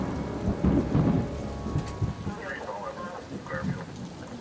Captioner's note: rain and police broad band chatter